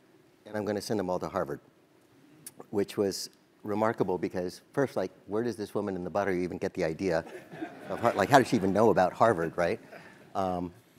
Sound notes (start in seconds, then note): 7.3 laugh